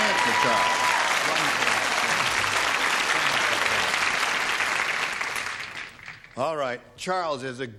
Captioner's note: applause